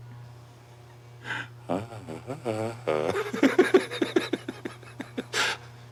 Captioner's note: Barney laughs strangely